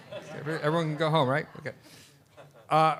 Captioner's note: laughter